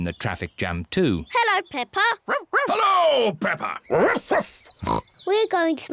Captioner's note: barks; snorts